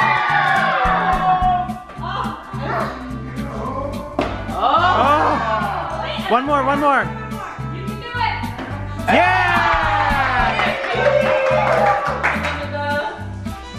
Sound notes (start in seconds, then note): 0.0 group yells; 4.6 group yells; 9.0 group cheers